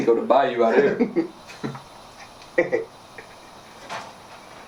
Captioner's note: Ramon laughing